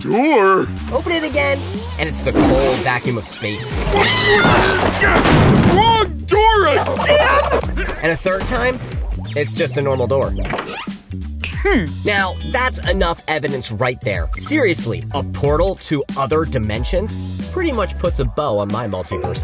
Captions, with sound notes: Open it again and it's the cold vacuum of space. [screaming] Wrong door again?! And a third time... it's just a normal door. [snapping] Hmm. Now that's enough evidence right there. Seriously, a portal to other dimensions? Pretty much puts a bow on my multiverse theory.